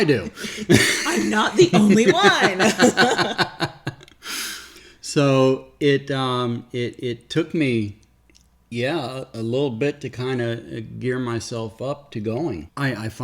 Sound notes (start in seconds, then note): 0.0 laughs; 2.5 laughing